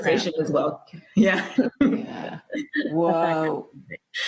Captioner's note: laughs